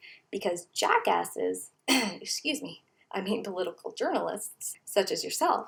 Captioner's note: clears throat